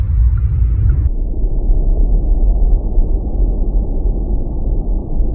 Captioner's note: spaceship whirring; eerie atmospheric music